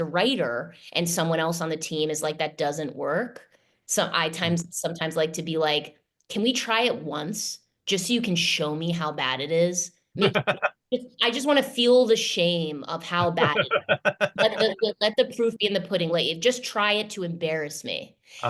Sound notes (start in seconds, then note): 13.2 laughter